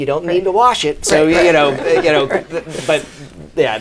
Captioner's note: laughs